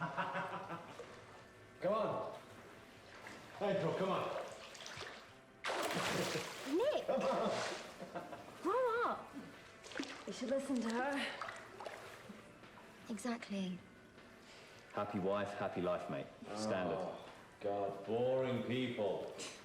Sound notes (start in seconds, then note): 0.0 Nick laughs; 6.7 laughs